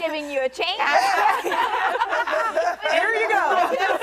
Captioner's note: women laughing